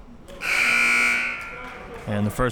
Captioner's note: buzzer blares